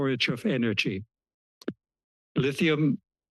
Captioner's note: pause